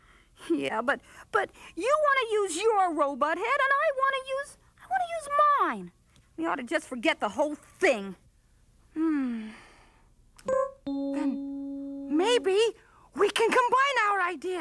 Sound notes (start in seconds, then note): 9.0 sighs